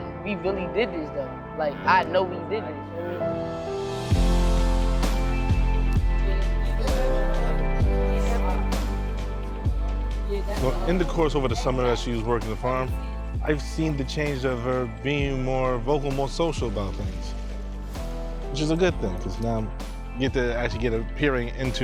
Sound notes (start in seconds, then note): 4.1 upbeat music; 5.7 family talking amongst themselves